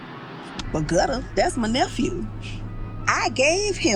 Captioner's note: ice cream truck